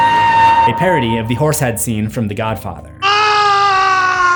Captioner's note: screams